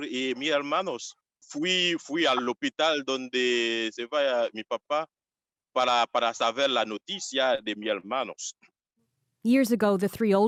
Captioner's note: speaking Foreign Language